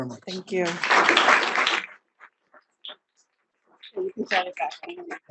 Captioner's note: audience applauding